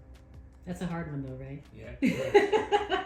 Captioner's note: laughs